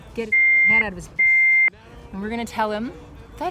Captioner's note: beeps